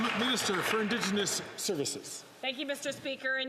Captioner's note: some Applause